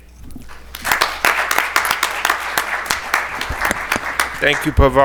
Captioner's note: attendees applaud